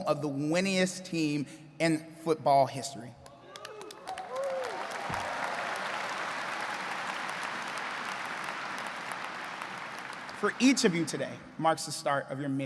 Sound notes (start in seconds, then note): 3.3 audience cheering and clapping